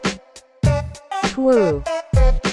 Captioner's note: computer voice: two